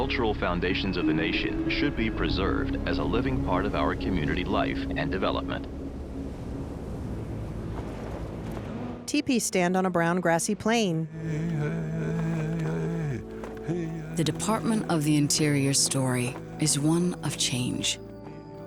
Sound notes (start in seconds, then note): 5.4 wind blowing; 6.7 chanting